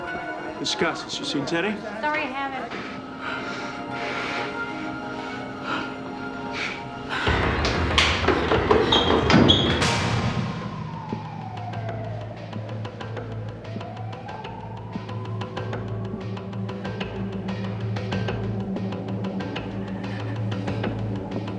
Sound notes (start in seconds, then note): 2.6 panting; 7.6 dramatic music playing; 10.6 music intensifies